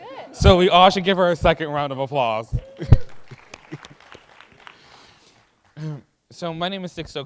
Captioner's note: applause